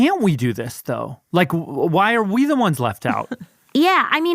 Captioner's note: laughs